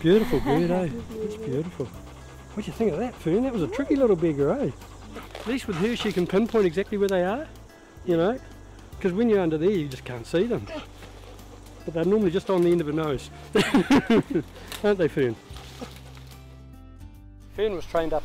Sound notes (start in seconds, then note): 13.5 laughing